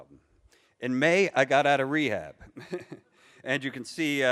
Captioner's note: laughs